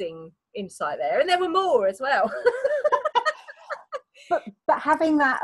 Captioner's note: laughs